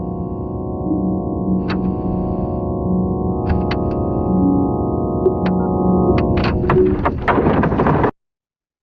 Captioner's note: clicking